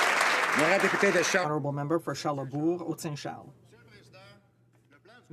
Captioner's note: some Applause